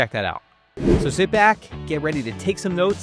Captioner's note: air whooshing